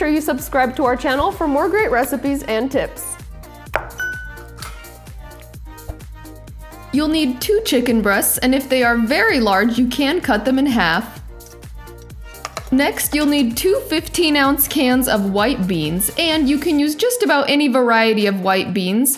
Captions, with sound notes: you subscribe to our channel for more great recipes and tips. (bell dings) You'll need two chicken breasts. And if they are very large, you can cut them in half. Next, you'll need two 15 ounce cans of white beans, and you can use just about any variety of white beans.